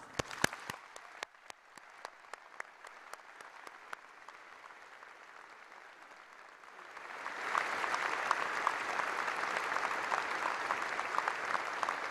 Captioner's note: applause